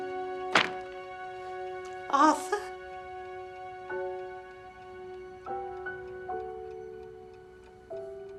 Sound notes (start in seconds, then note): 0.5 book drops